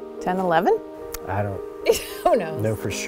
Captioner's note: laughs